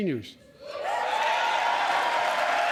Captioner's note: cheering and applause